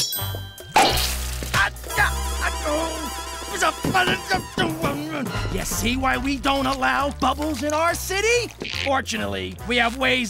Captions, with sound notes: [popping] [groaning] You see why we don't allow bubbles in our city? Fortunately, we have ways of dealing